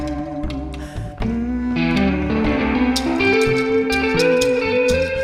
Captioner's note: humming